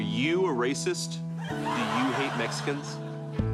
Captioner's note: studio audience laughing